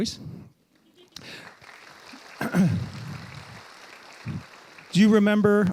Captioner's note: audience applauding